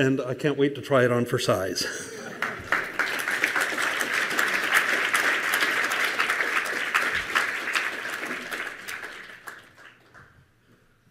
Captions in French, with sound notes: et j’ai hâte d’essayer son avatar de magasinage en ligne! (Applaudissements)